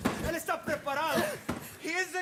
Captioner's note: speaks in Spanish